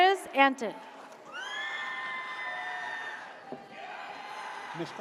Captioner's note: audience cheers